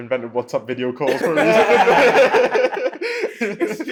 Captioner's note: laughter